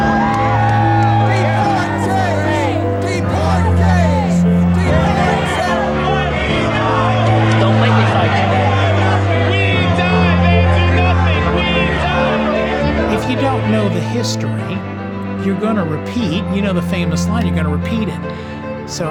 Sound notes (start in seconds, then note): 0.1 cheering; 5.8 people screaming; 12.8 chanting